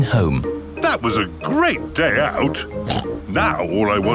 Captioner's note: snorts